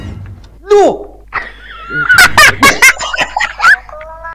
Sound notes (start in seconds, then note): 1.3 laughing